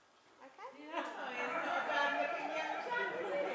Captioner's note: laughter